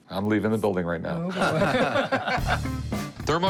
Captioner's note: laughter